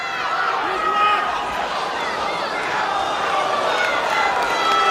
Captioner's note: crowd yelling, jeering